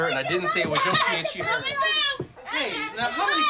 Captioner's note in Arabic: أطفال يصرخون